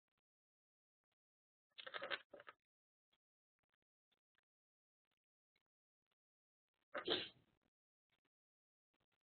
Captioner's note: silence